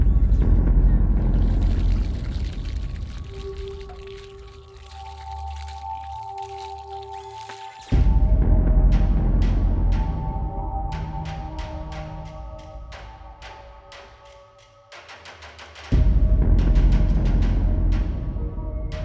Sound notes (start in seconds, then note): 0.0 chilling beat; 2.8 soft ominous music; 2.8 water running; 8.3 chilling beat; 10.8 soft ominous music; 15.8 chilling beat; 18.8 soft ominous music